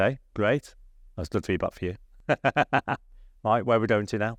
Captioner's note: laughs